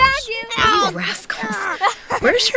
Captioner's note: sounds of children playing